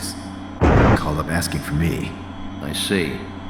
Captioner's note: convenient thunder